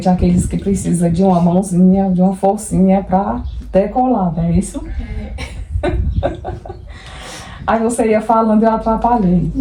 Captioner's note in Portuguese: risadas